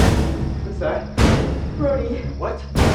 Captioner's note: mysterious knocking